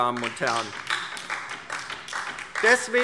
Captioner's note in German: Beifall DIE LINKE